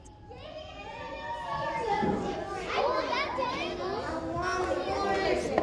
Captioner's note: kids shouting and chattering